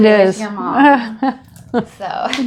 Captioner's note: laughing